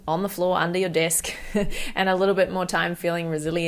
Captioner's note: chuckles